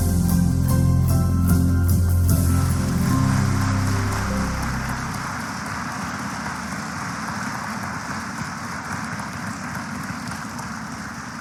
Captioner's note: applause